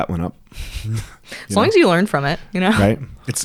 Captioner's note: laughs